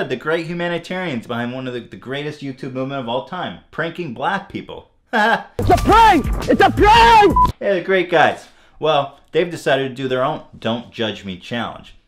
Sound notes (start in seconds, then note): 5.8 shouting